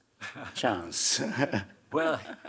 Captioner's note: Hiroshi chuckling; chuckling